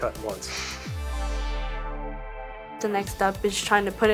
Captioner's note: chuckles